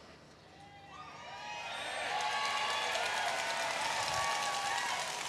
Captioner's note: audience cheering